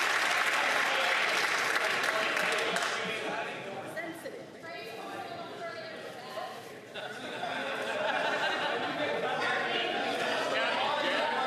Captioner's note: some Applause